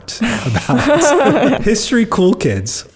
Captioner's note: laughs